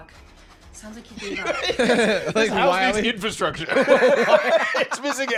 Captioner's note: laughs